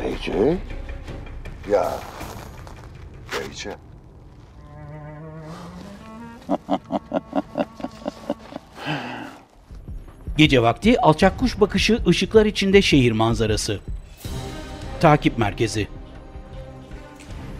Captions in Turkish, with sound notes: Beyce? Ya!.. Beyce! (Gülme sesi) (Müzik - Gerilim)